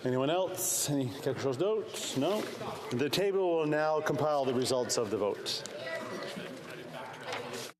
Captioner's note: speaking French